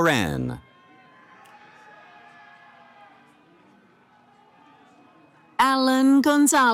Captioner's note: cheering